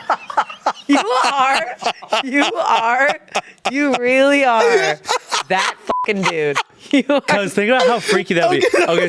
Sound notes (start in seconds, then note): 5.9 beep